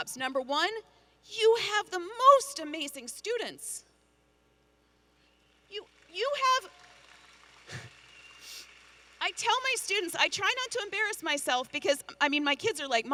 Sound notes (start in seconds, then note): 5.8 audience applauding and cheering